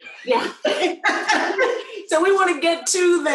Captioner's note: laughter